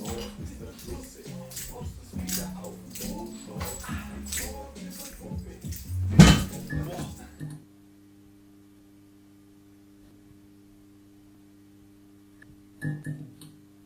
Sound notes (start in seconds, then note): 5.8 klonk